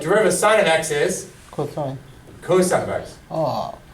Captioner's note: voiceover